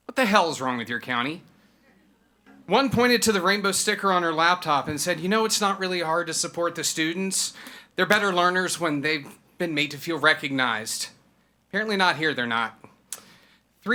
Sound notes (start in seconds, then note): none